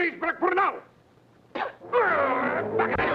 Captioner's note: Pilar spits; men talking excitedly